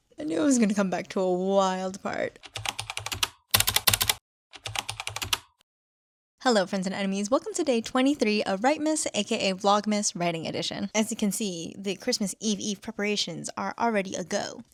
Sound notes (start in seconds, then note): 2.4 typing